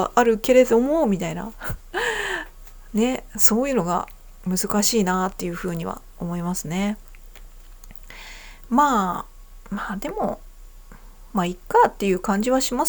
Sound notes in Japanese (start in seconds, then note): 1.6 笑い; 1.9 息をのむ音